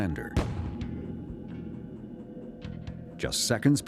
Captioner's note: pops